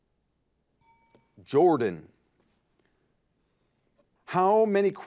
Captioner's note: timer beeping